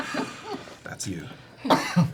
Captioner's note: all laugh